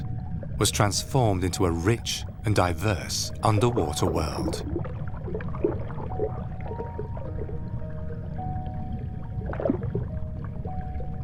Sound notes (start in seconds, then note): 4.6 water sloshes; 8.5 gentle music